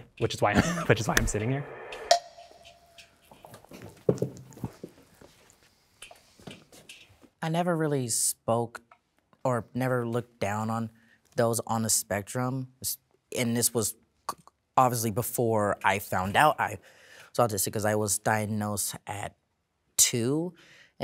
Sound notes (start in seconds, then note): 2.1 clicking instrumental music; 2.9 footsteps clicking on floor